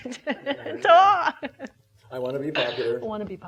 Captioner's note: laughing